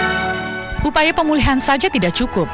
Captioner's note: non-english speech